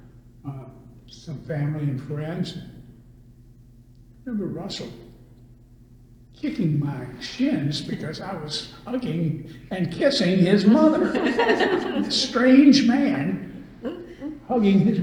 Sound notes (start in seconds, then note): 9.8 all laugh